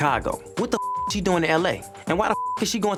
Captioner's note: beep